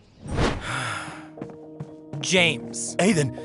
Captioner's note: sighs